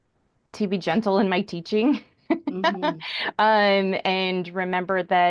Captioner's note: chuckles